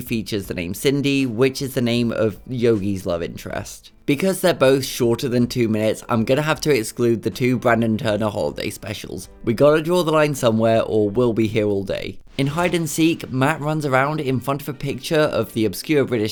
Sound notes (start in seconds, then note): 12.1 record scratch